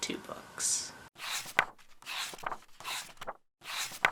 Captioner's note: pages turning